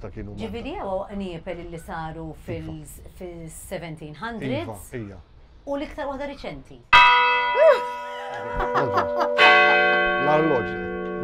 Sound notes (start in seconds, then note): 7.0 bell ringing; 7.6 laughing